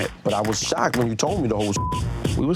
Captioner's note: beep